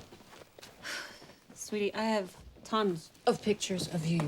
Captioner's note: sighs